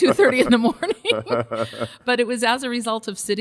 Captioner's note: both laugh